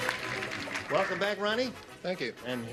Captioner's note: clapping